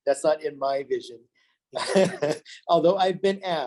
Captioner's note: laughs